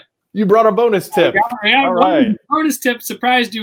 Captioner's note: murmurs